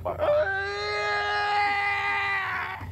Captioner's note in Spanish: gritos y quejidos